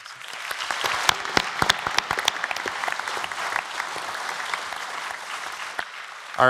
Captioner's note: applause